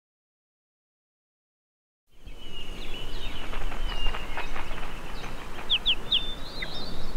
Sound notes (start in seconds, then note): 2.1 birds singing